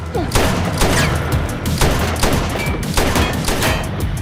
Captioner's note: gun shots firing